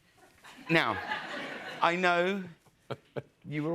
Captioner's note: laughter